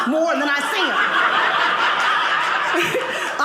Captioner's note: audience laughing